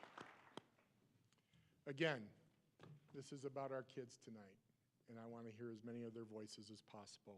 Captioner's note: applause